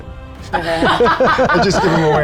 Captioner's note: group laughs